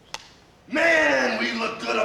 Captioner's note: slate clacks